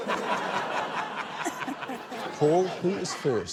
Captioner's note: laughter